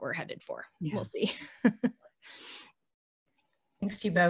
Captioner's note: chuckles